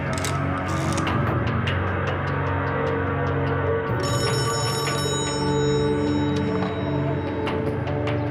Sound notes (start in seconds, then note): 0.0 rotary clicks; 4.4 phone rings